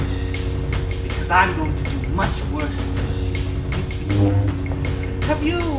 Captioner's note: chuckles